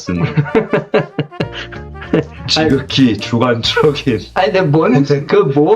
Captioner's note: laugh